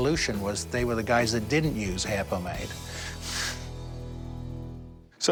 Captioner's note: chuckles